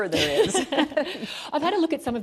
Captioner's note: laughter